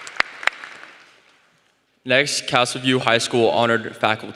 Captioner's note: applause